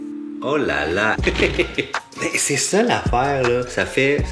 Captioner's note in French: rire